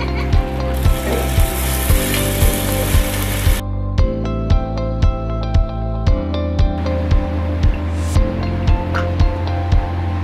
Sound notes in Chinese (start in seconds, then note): 2.4 炙燒聲音療癒